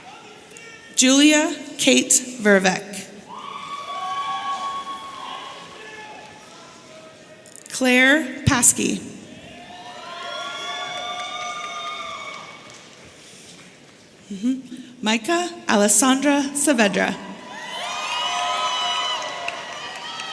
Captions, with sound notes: Julia Kate Vervaecke. (audience cheering) Claire Passkey. (audience cheering) Mayca Allesandra Saavedra. (audience cheering)